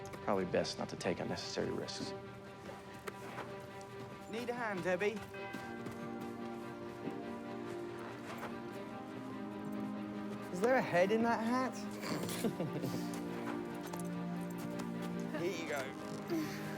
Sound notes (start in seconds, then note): 3.0 suspenseful music; 12.0 Debi snorts; 12.0 Tommy chuckles